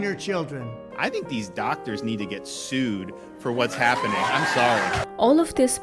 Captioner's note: audience claps and cheers